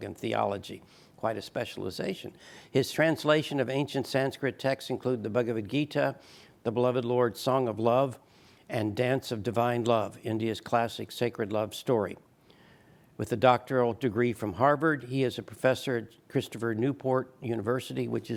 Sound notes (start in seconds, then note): none